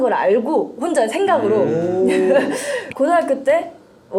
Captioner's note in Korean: 감탄